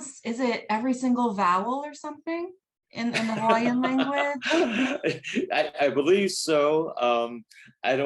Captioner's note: laughs